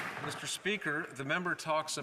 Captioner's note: some Applause